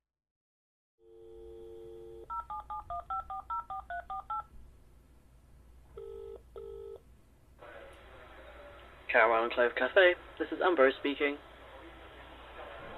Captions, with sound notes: [PHONE DIALLING, RINGING…] [MUFFLED CAFE AMBIANCE.] AMBROSE Caramel and Clove Cafe, this is Ambrose speaking?